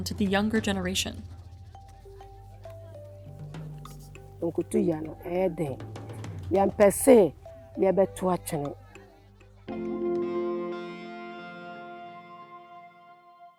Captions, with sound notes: to the younger generation. (speaking foreign language) (bright upbeat music)